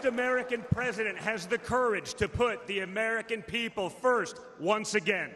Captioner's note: applause